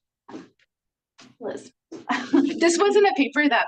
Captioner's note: laughs